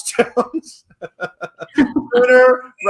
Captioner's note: laughs